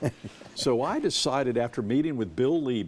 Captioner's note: chuckles